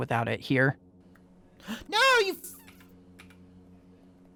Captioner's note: gasps